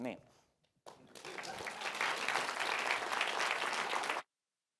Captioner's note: applause